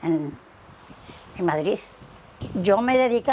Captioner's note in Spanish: Sonido de viento